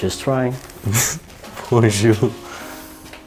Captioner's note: chuckling